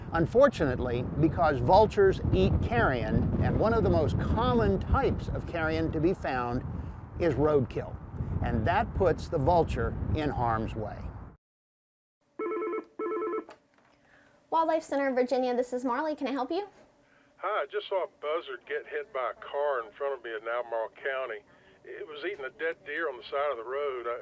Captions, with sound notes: Unfortunately, because vultures eat carrion, and one of the most common types of carrion to be found is roadkill, and that puts the vulture in harm's way. (telephone ringing) >>Wildlife Center of Virginia, this is Marley. Can I help you? >>Hi, I just saw a buzzard get hit by a car in front of me in Albemarle County. It was eating a dead deer on the side of the road.